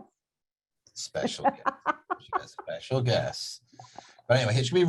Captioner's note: laughs